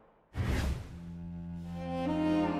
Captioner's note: air whooshes; soft violin music